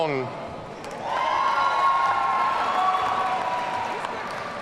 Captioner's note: audience cheering